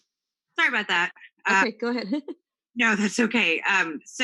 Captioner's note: laughs